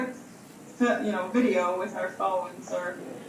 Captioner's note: none